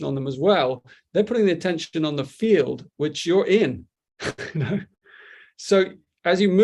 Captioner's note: chuckles